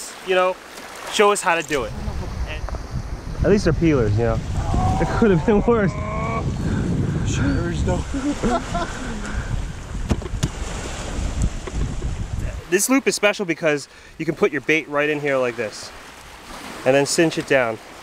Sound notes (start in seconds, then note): 4.6 grunting; 4.8 laughing